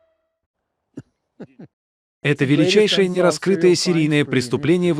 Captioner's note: chuckles